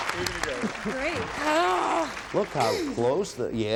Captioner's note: grunting